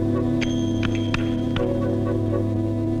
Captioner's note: clapping